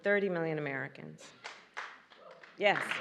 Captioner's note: applause